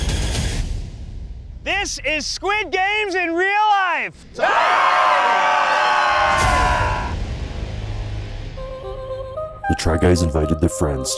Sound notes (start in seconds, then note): 4.4 participants cheering